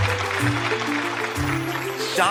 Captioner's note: audience clapping